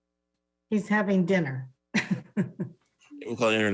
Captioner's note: laughs